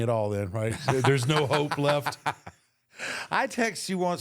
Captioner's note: Michael laughs